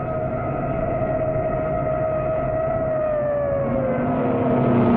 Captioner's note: police sirens alarming; engine rumbling